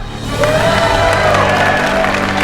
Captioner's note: heroic music playing; applause